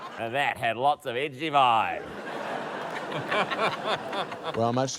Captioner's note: laughter; laughter